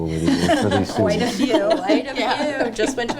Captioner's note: people laughing